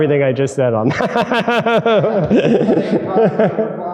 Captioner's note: both laughing